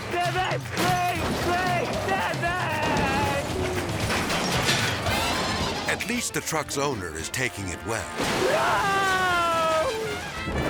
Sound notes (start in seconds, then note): 0.0 metal shattering; 3.3 light upbeat jazz music; 3.3 metal shattering